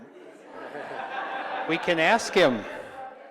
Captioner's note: audience laughs